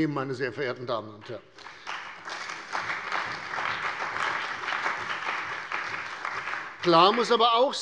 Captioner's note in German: Beifall bei der CDU und dem BÜNDNIS 90/DIE GRÜNEN